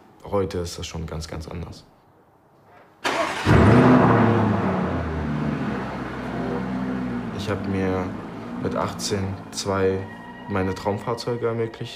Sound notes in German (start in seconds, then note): 3.4 Lautes Aufbrummen